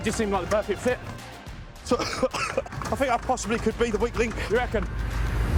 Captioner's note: coughing